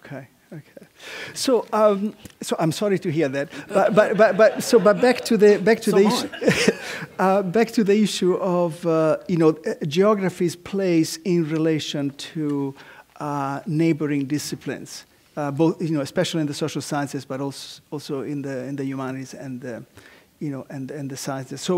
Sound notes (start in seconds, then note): 3.5 laugh